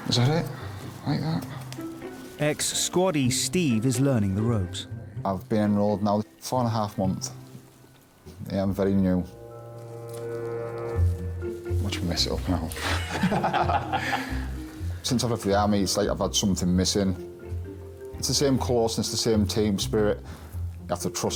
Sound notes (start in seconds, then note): 12.8 pair laughing